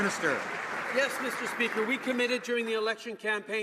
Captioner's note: some Applause